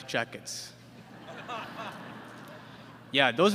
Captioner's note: laughter